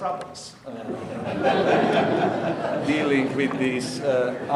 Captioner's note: audience laughing